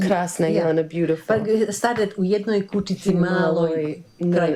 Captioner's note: speaking Croatian